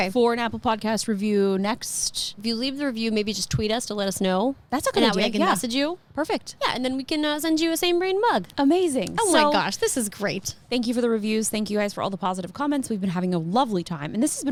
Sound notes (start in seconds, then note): none